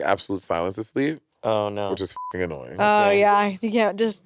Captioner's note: beep